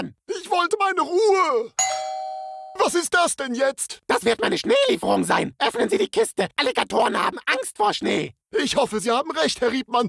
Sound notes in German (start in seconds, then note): 1.8 Türklingel